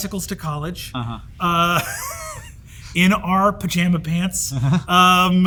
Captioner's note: Brennan chuckles; Hank chuckles